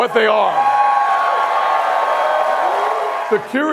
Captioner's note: applause